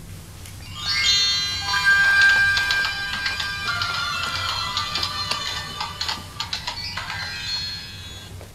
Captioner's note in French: et bruit de sabots